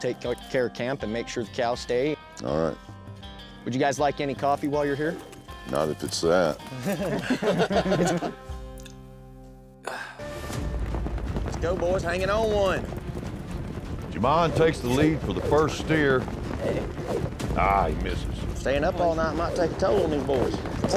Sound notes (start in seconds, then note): 6.7 everyone laughs; 9.8 sighs; 16.1 rope swirling